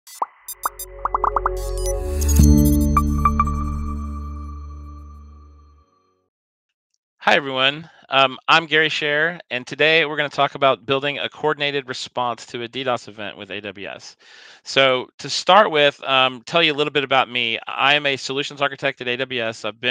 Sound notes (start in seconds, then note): 0.4 inspiring music; 0.6 bubbles pop